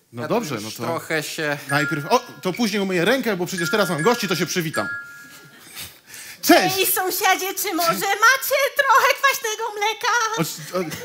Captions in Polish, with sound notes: - No dobrze. [DZWONEK DO DRZWI] - O, to później umyję rękę, bo przecież teraz mam gości, to się przywitam. - Cześć! - Hej sąsiedzie, czy może macie trochę kwaśnego mleka?